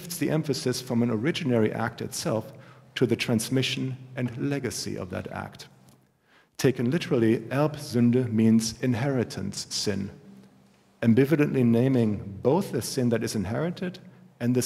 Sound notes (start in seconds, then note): 8.0 german